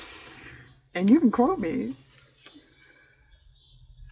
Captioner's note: laughs